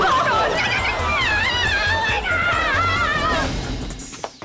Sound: screaming

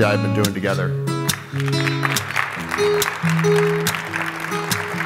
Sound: applause

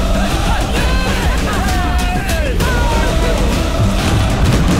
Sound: crowd cheering

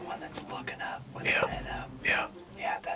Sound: whispering

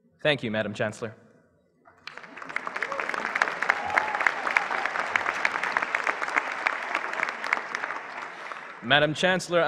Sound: applause

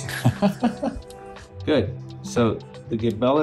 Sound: laughing

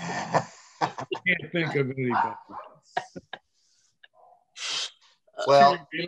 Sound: laughs; laughter

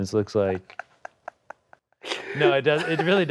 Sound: laughs

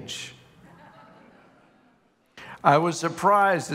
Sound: congregation laughing

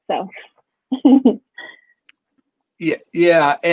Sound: chuckles

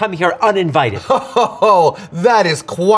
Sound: spider laughs

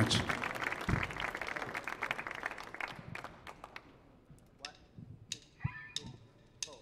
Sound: audience cheers; audience claps

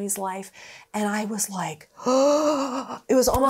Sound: gasps

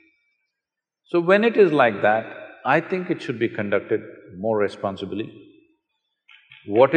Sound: applause

